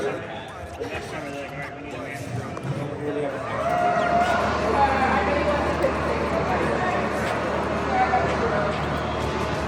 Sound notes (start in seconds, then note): 3.7 alarm wails